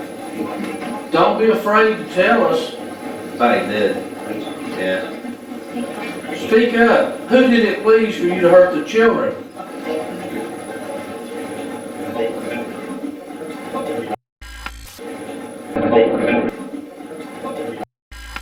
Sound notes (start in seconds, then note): 14.5 static playback transmitting; 14.5 static fizzing; 18.2 static fizzing